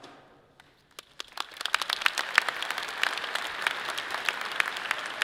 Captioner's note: audience applauding